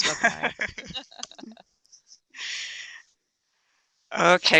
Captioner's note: chuckling